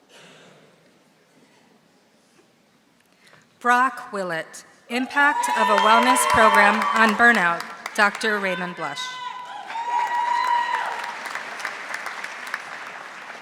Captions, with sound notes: Brock Willett, (audience cheering) impact of a wellness program on burnout, Dr. Raymond Blush. (audience applauding)